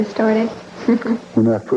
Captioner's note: chuckling